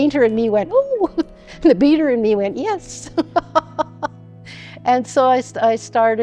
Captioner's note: laughs